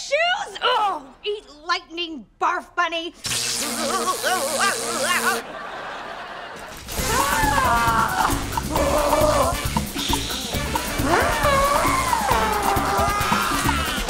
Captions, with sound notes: Ugh! Eat lightning barf bunny! Whoa. [screaming] [screaming]